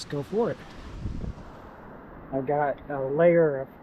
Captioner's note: water splashing